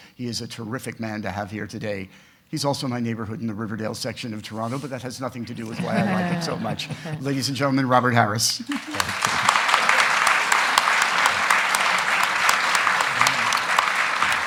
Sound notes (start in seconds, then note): 8.6 audience applauding